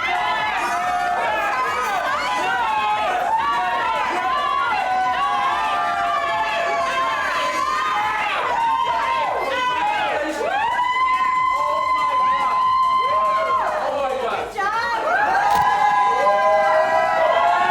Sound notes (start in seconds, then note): 0.2 upbeat music; 6.8 friends cheer; 15.0 friends cheer